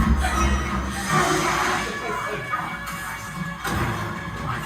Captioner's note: water splashes